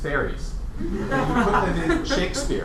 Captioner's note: laughter